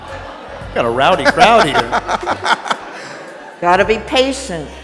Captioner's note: audience laughing; laughs